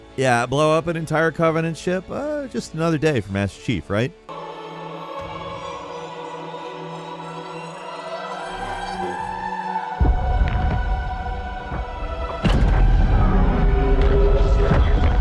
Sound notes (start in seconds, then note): 6.6 dramatic music; 11.5 faint explosions